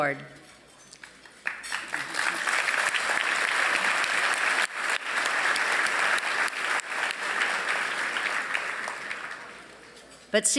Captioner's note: applause